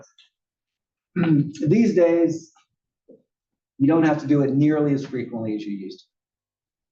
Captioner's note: cough